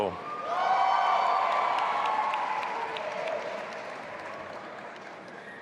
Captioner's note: audience applauding and cheering